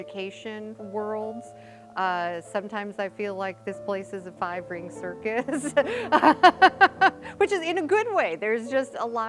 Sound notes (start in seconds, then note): 5.5 laughing